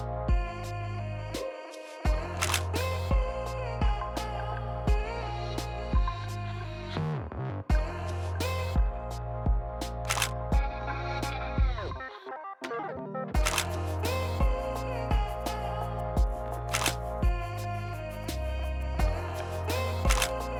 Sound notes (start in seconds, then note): 0.0 mellow music; 2.8 shutter clicks; 3.6 mellow music; 10.1 shutter clicks; 12.6 mellow music; 13.4 shutter clicks; 14.6 mellow music; 16.7 shutter clicks; 17.7 mellow music